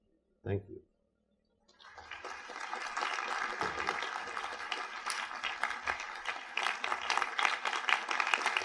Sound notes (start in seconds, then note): 1.7 audience applauds